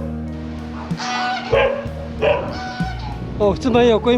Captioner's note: goose squawking, dog barking